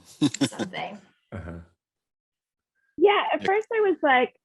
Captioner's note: laughs